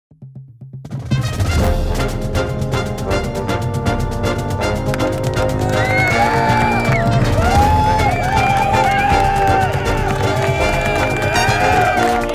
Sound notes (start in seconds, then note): 0.0 crowds Cheering; 0.9 marching Band Music